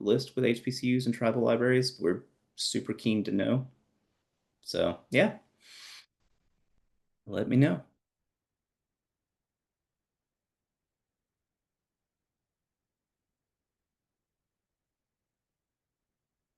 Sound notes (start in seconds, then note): 11.3 long pause